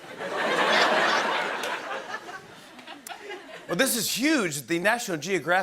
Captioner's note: laughter